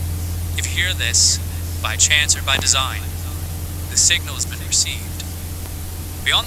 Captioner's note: echo